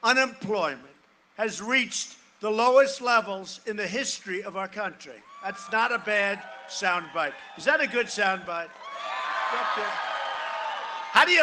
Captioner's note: cheering and applause